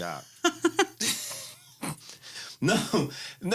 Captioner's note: laughs